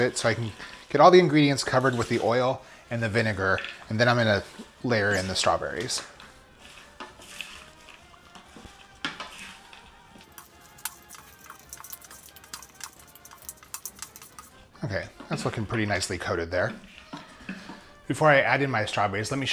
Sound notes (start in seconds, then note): 10.2 rapid clicking